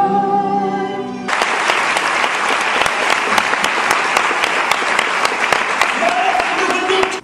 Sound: audience applauds

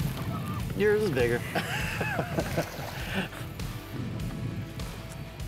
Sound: laughs

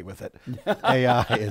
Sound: laughing

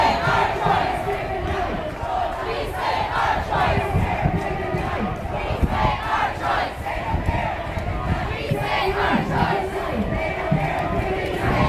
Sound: mixed chanting

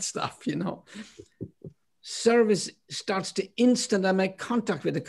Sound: laughter

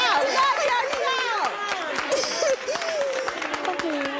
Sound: crying

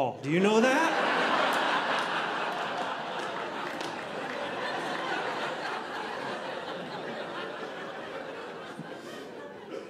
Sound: audience laughing

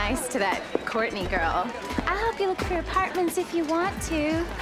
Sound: Imitating Marcy

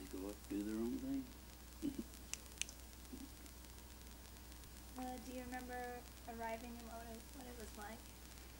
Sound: clicking sound

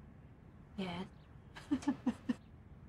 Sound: giggles

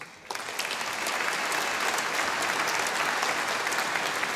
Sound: audience applauding

